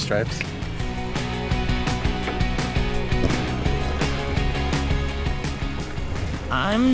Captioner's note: upbeat music; brakes squeaking